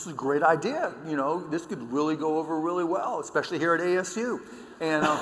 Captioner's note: laughter